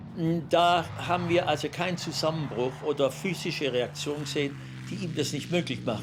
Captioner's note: Gunther speaking German